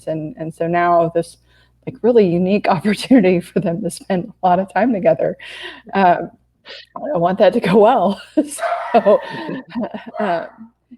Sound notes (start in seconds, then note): 8.4 laughs